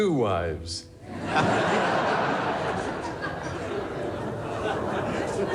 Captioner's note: crowd laughing